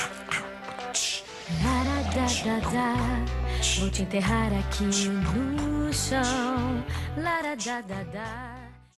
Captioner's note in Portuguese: Beat box